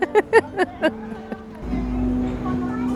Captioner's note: laughs